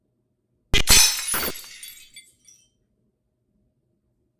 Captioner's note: glass shattering